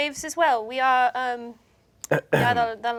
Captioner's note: Ikyulus clears his throat